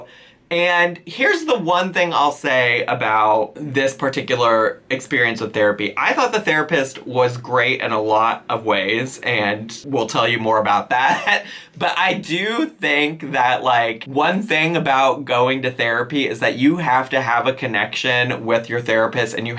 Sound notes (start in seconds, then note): 11.0 chuckles